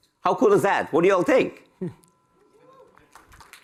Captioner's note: applause